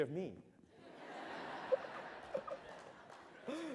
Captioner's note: laughter